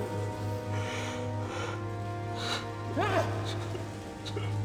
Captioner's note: crying